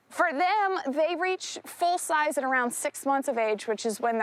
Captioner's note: none